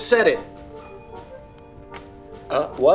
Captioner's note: doorbell ringing